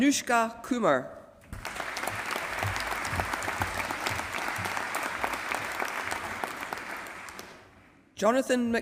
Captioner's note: applause